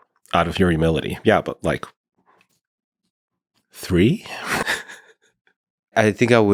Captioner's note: laughing